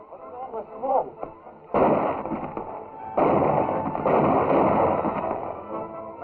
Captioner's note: gunshots